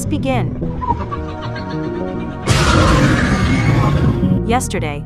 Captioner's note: roar